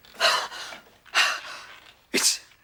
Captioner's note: sniffing; heavily breathing